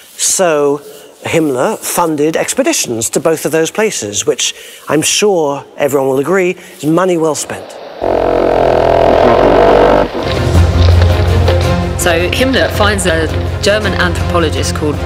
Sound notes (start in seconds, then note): 8.0 horns tooting; 10.5 dramatic music